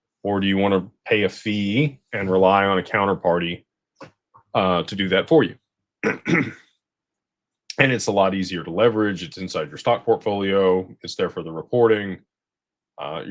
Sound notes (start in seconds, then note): 6.0 clears throat